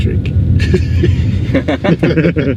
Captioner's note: laughs